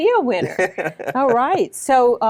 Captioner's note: chuckles